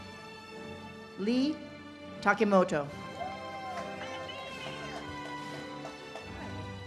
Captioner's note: audience cheers and claps